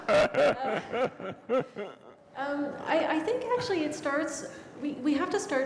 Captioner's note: laughter